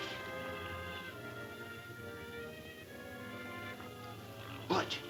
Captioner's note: men snoring